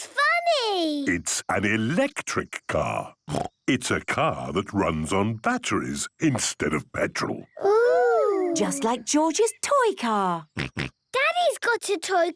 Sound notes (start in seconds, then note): 5.8 kids laughing